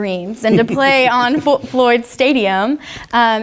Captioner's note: laugh